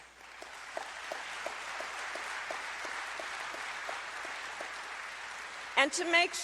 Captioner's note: applause